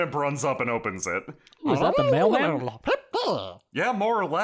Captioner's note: Imp noises